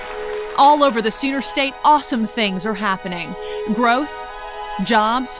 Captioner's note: applause